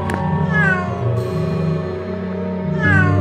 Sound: cat meows x2

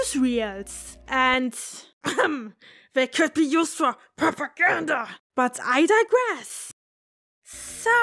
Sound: cough

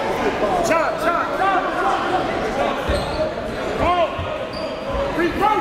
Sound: yelling and bustling loudly

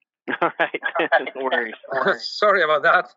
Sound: laughing

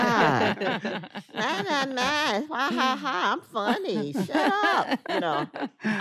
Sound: mocking laughter

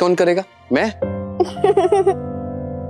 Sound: chuckling

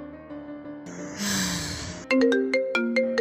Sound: sighs

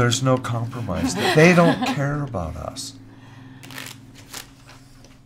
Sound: nervous laughter

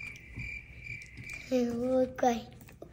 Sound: crickets chirping

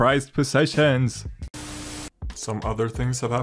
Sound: static

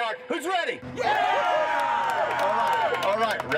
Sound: crew cheering

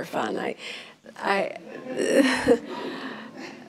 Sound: laughs

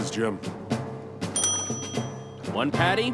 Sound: dinging

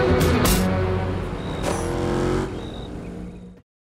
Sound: car driving

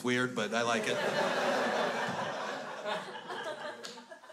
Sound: crowd laughs

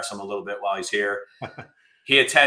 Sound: laughs

